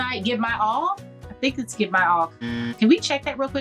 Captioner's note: buzzer buzzing